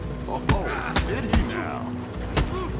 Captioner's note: laughing